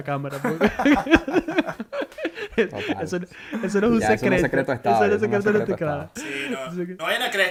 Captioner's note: laughs